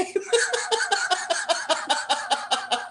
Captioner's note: laughter